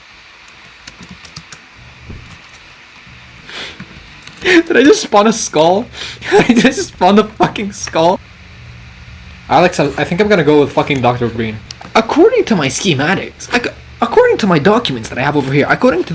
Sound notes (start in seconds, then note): 0.5 typing; 4.4 snicker